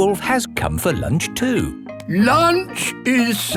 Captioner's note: none